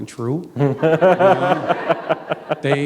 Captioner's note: laughter